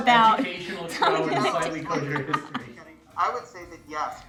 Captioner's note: all mumbling